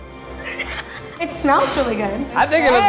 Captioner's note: laughing